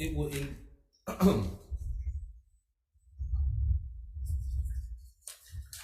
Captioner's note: clears throat